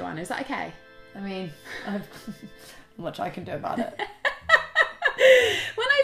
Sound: laughs

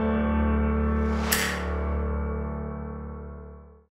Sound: snap

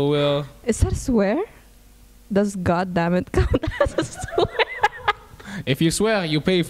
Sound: laughs

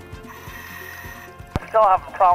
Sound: lively upbeat music; deep breathing

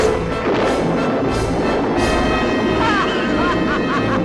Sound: thunder rumbles; laughs evilly

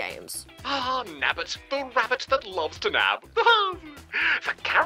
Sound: laughs

